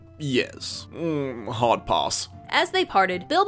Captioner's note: As Gandalf